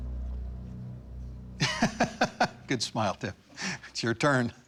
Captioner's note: laughs